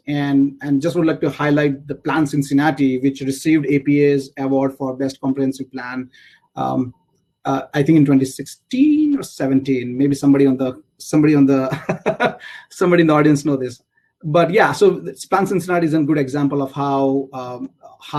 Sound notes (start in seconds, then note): 11.7 laugh